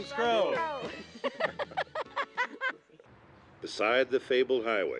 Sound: laughing

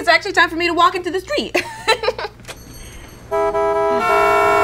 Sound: laughs; horns blowing

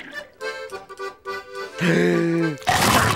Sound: gasping

